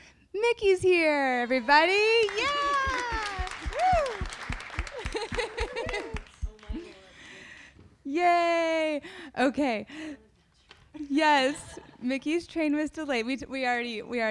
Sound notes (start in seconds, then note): 1.6 audience applauding